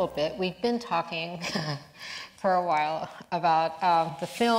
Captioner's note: chuckles